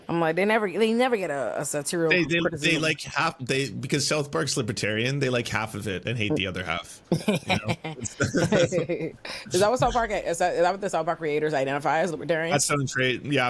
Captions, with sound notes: I'm like, "They never get a--" They like half, because South Park's libertarian, they like half of it and hate the other half. (laughing) Is that what the South Park creators identify as libertarian?